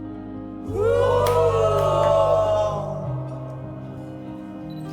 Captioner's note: excited yelling